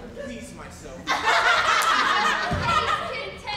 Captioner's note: group laughs